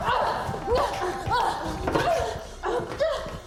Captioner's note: both grunting